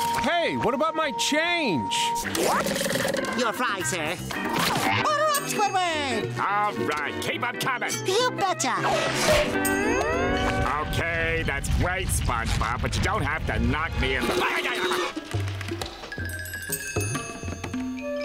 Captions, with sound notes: Hey, what about my change? Your fries, sir. Order up Squidward! -All right, keep 'em comin'! -You betcha! Okay, that's great SpongeBob, but you don't have to knock me- [yelling]